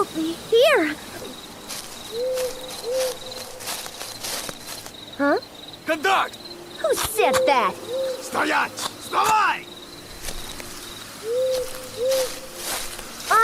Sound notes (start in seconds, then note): 5.7 Russian; 10.9 Russian